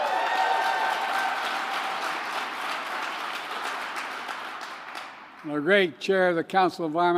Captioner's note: applause